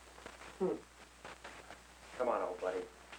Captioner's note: chortles